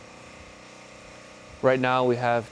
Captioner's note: machinery revving